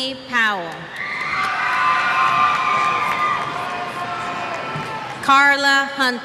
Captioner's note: cheers